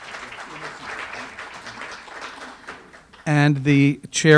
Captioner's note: audience applause